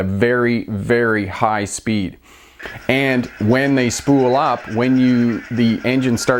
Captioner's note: turbocharger spooling up in background